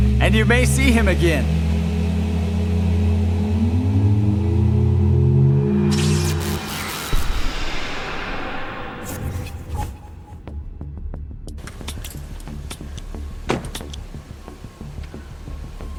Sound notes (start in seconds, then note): 3.1 machine whirs; 10.9 tense music plays; 12.1 gun clicks